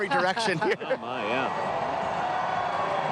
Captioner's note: applause